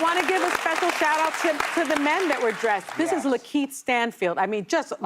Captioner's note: applause